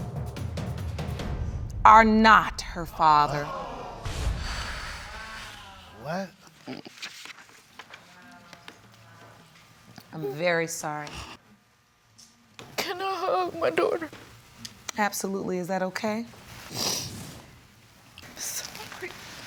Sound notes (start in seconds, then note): 3.4 audience gasps